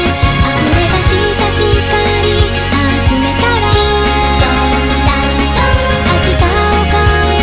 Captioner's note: ding dong dang dong